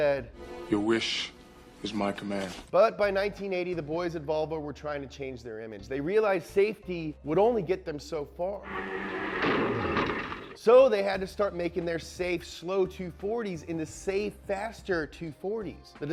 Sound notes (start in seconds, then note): 8.7 crash